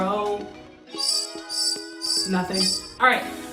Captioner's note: clueless noise